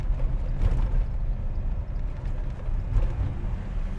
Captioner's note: engine hum